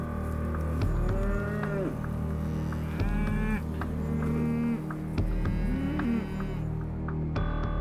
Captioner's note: cattle mooing